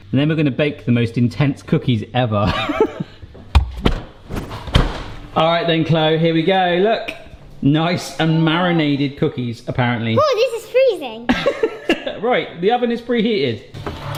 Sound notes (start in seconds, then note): 2.7 laughs; 4.4 fridge door closes; 11.3 laughs